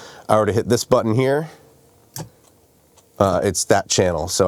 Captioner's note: button clicks